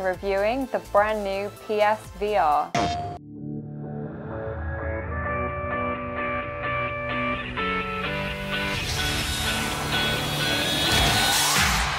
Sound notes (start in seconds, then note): 2.7 intense electronic music; 2.7 electronic banging